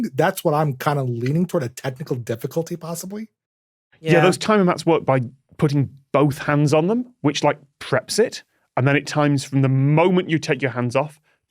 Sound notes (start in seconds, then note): none